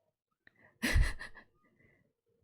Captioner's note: laughs